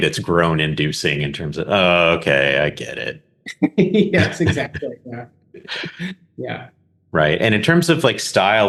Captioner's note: both laugh